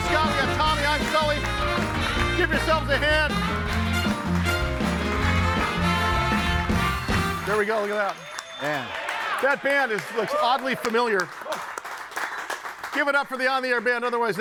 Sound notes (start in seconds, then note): 4.0 audience applauding; 4.0 bright music